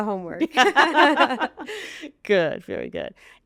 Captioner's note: hosts laughing